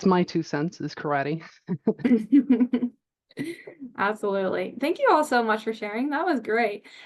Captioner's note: laughs